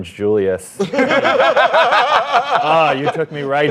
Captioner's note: laughter